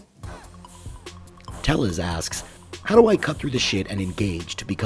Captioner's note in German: Voice-over